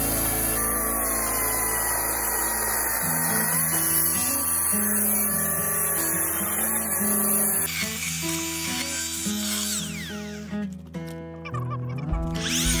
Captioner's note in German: Geräusch einer elektrischen Kettensäge